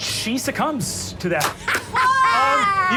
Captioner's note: clapping and cheering